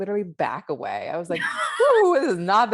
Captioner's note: laughs